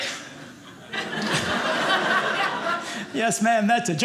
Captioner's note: audience laughing